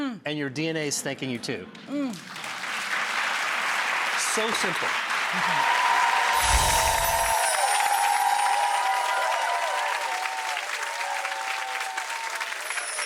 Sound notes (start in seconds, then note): 4.5 audience applauds; 5.8 audience cheers; 6.3 bells chime